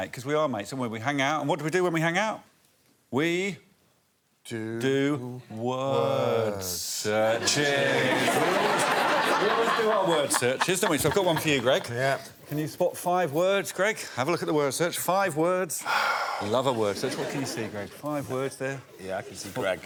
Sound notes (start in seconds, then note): 15.8 exhales